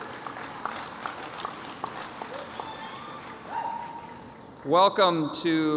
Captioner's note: applause